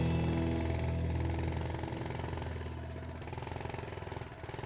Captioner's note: motor sputtering